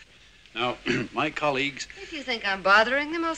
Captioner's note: clearing throat